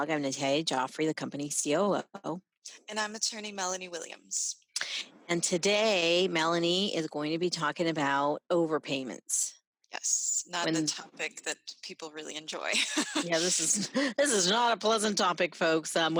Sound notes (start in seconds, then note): 12.7 laughs